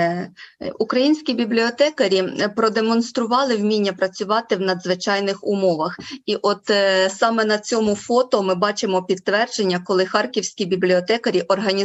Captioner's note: foreign Language Spoken